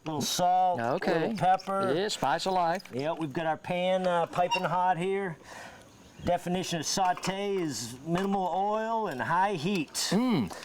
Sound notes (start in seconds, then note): none